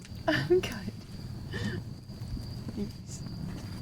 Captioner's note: riendo